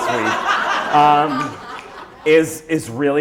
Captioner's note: laughter